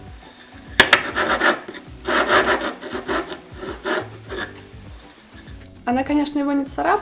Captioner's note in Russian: грубый звук трения тарелочки о стол